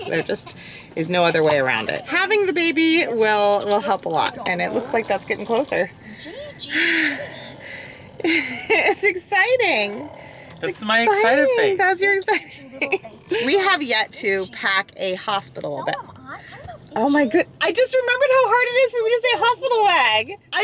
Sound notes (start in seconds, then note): 7.0 groans; 12.0 laughs